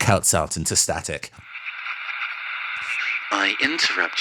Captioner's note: Static